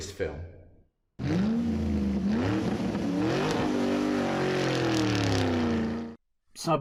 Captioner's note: car engine revving